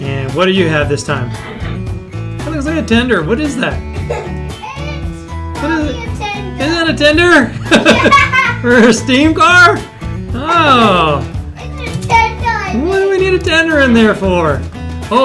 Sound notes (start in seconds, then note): 7.5 laughing loudly